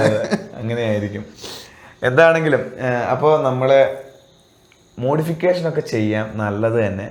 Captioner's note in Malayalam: ചീറ്റുന്നു